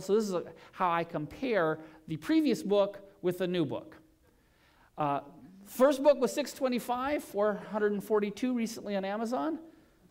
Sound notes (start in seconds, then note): none